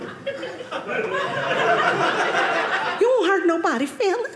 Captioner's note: audience laughing